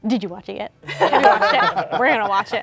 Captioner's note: laughter